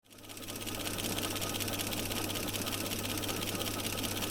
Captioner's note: film projector running